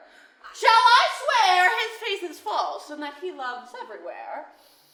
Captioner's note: none